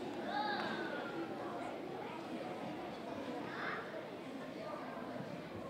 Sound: audience chattering

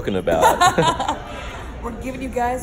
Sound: laughs

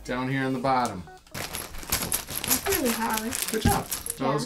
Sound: pieces rustling

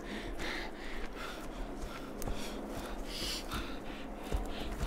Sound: helicopter sound crescendos

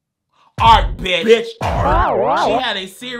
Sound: modulated screaming

